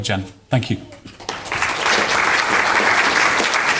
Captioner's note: audience applauds